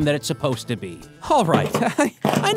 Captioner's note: laughs weakly